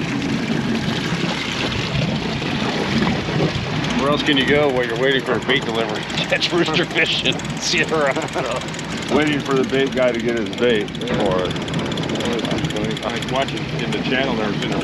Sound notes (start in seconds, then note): 8.8 chuckling; 12.4 reel cranking